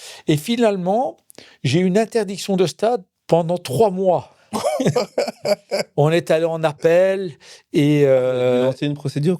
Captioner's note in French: rires